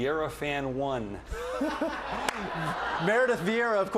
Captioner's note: laughter